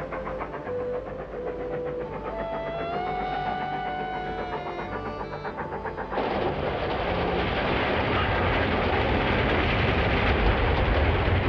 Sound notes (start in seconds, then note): 3.4 steady chugging; 7.2 steam whistle blows